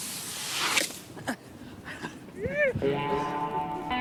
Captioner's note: Dayne grunting; bright music